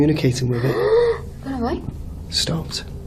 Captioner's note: gasps